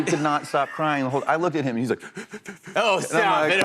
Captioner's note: sobbing